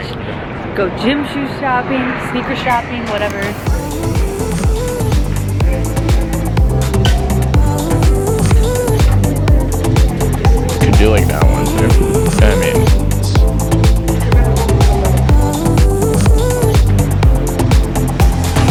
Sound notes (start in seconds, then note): 3.1 upbeat house music; 12.5 murmurs; 14.0 upbeat house music